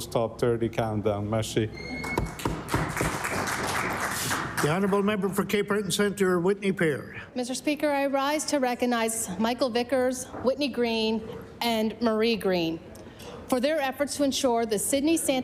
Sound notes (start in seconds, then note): 4.9 applause